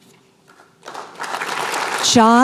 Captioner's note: applause